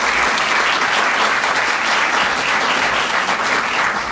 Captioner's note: applause